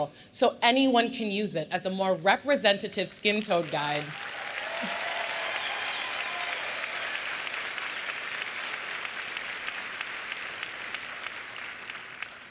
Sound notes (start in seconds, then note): 5.7 applause